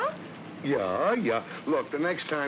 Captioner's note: mocking